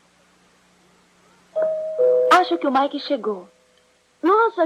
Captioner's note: doorbell rings